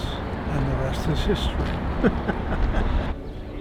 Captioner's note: laughs; gentle piano music